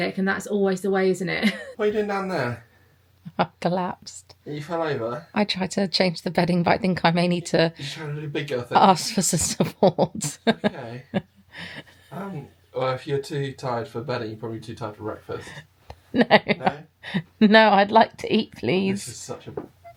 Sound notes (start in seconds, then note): 16.2 laughs